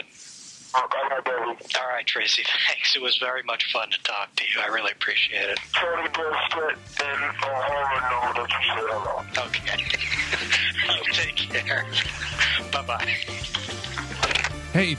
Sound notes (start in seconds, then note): 10.6 laughs; 12.2 laughs